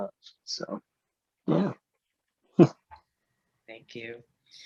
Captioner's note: chuckles